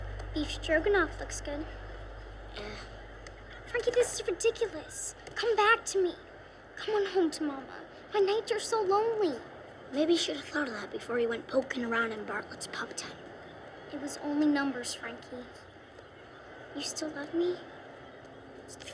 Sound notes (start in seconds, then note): none